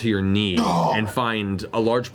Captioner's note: pained grunt